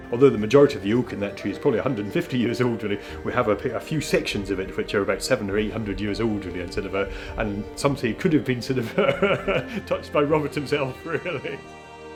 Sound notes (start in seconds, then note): 11.0 laughs